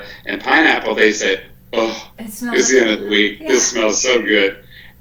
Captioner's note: sigh